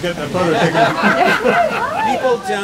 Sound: people laugh

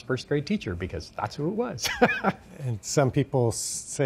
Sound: laughing

